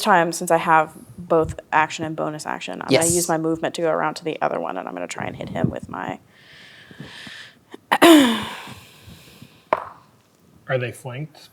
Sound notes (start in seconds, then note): 7.8 clears throat; 9.4 dice rolling